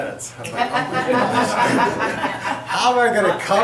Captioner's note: laughter